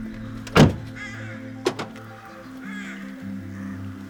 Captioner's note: car locks; car door slam